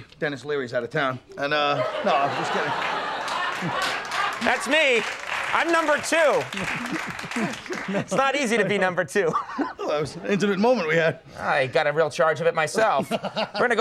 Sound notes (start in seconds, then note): 1.9 audience cheering; 6.5 Colin laughing